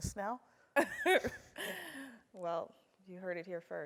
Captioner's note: laugh